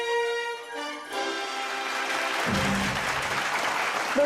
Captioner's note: applause